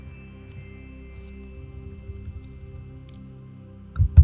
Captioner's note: mouse clicking; gentle music continues